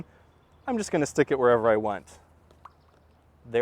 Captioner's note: pop